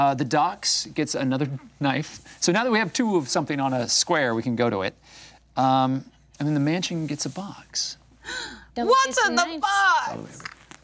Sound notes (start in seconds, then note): 8.2 gasping